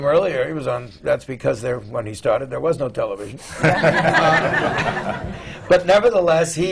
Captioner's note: laughter